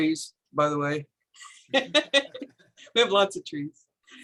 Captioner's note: chuckles